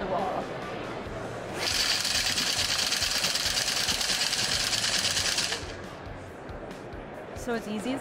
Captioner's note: chains spinning